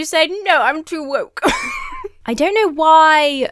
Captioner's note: laughs